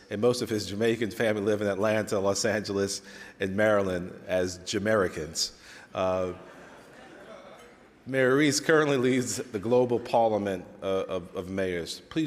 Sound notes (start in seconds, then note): 6.3 laughter